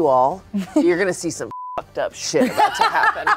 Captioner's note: beep; laughs